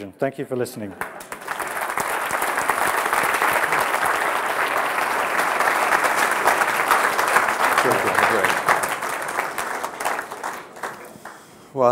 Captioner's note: applause